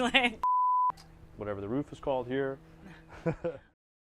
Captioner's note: chuckles